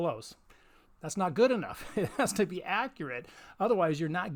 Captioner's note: laughs